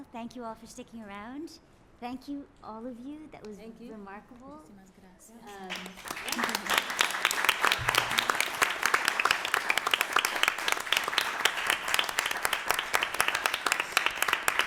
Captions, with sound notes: Thank you all for sticking around. Thank you, all of you. That was remarkable. [APPLAUSE]